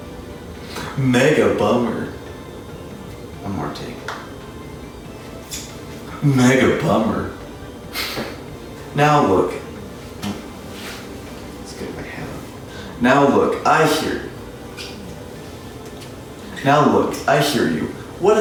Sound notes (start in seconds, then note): 7.9 chuckle